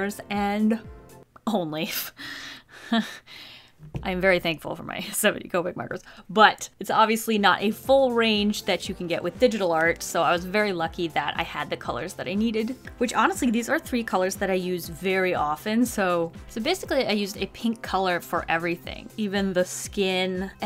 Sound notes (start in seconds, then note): 1.5 laughs; 1.5 whispers